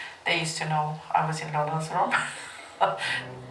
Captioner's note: laughs